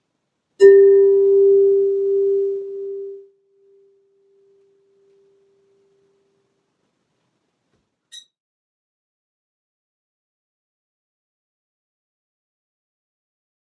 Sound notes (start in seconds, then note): 0.6 chime